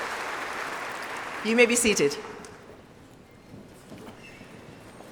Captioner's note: applause